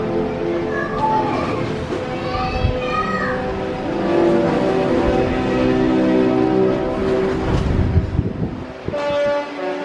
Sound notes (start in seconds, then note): 2.2 child shouting excitedly